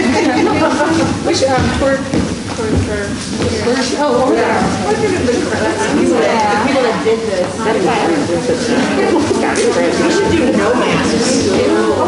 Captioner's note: chatting